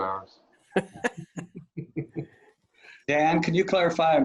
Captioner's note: board members laughing